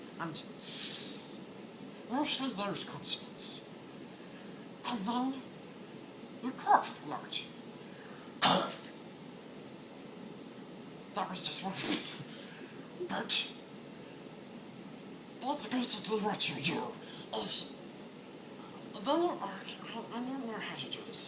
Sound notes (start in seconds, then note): 8.4 cough